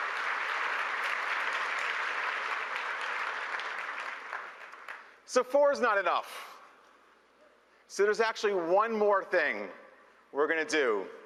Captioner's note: applause